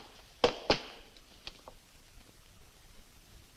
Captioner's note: stamps floor